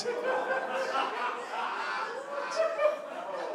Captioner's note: laughter